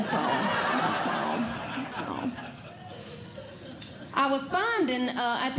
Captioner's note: audience Laughing